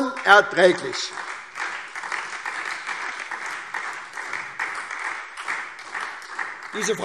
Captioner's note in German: Beifall